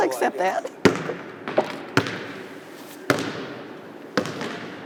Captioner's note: basketball bouncing